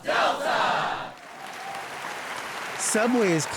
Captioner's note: audience applauds